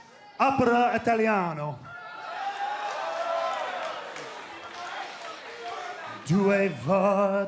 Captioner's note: crowd cheering; singing in foreign language